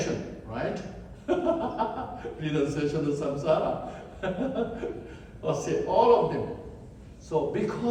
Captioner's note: laughs